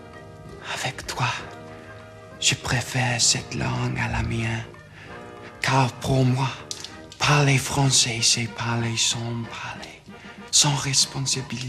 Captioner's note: speaking french